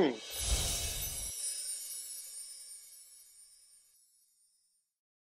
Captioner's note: several chiming sounds